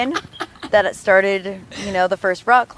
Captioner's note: laughs